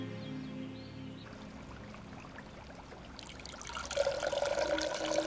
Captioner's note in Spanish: gorgoteo líquido